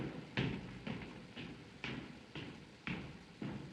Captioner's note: footsteps walking away